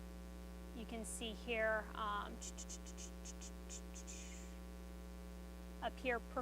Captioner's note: mouth noises